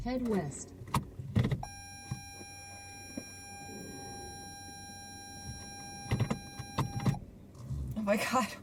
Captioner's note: car beeping